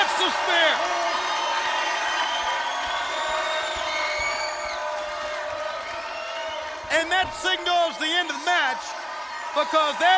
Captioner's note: applause